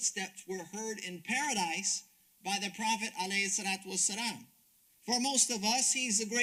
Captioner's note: speaks Arabic